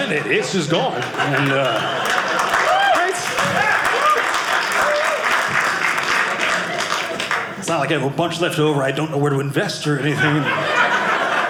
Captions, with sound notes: It's just gone. (audience applauding) It's not like I have a bunch left over I don't know where to invest or anything